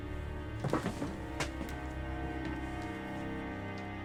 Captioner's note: shoes tapping